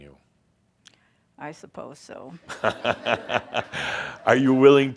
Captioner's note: Adamus chuckles